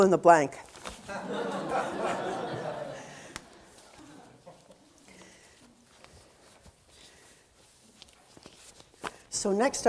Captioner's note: audience laughter